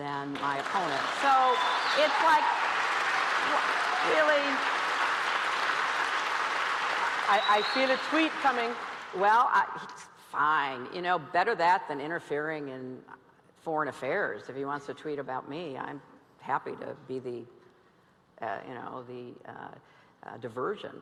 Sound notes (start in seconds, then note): 5.5 cheers and applause